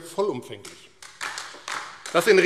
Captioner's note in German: Beifall AfD